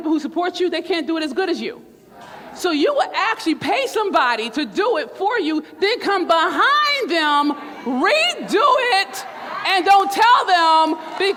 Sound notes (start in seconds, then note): 2.0 crowd; 9.0 crowd laughs